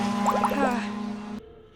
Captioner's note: sigh